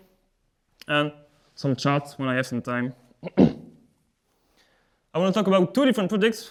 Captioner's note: clears throat